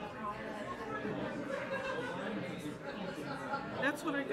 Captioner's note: people chattering